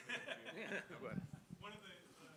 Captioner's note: laughter